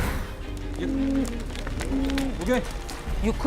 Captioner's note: cattle lowing; man speaking in foreign language